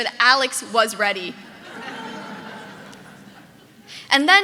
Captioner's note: audience laughing